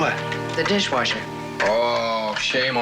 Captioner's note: mockingly